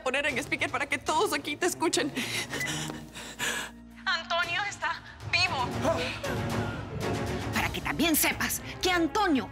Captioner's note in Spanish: Bip